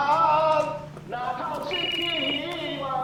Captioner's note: cell phone sound